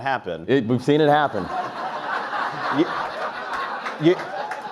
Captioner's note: audience laughs